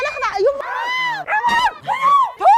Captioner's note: hysterical screaming